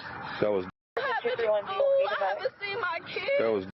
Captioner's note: radio chatter